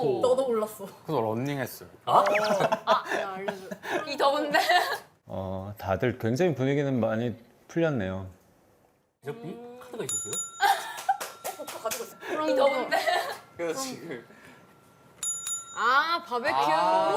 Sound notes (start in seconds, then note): 12.5 notification sound